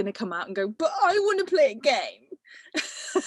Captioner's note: whining